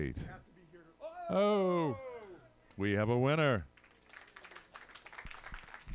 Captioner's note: applause